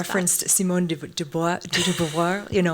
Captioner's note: laughs